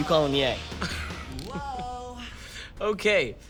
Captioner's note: laughing